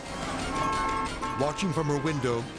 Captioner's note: horn honking